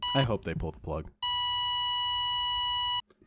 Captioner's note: flatline